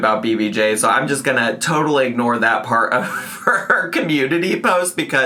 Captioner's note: laughs